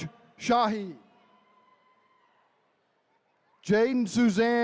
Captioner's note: attendees cheering